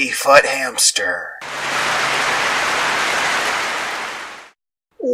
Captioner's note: clapping